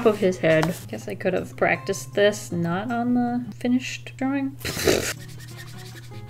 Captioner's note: laughs